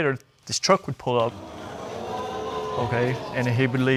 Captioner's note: audience exclaims